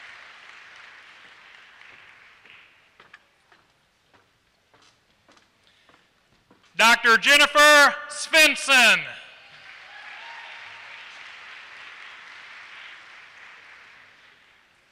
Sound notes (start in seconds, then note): 9.4 applause